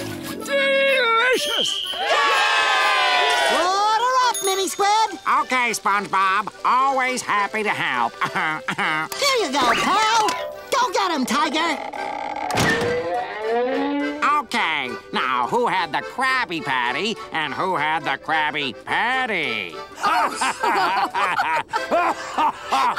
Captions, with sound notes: Delicious! [whistle blowing] Yay! Order up, Mini Squid. Okay, SpongeBob. Always happy to help. [chuckles] Here ya go, pal. Go get 'em, tiger. Okay, now, who had the Krabby Patty and who had the Krabby Patty? [laughing]